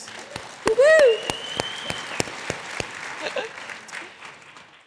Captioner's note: audience applauding